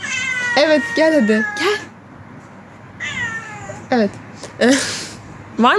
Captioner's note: meooww